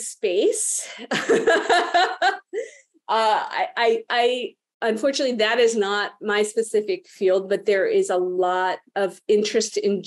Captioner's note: laughs